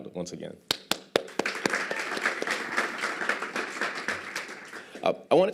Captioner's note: applause